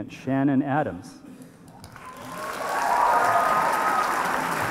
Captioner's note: applause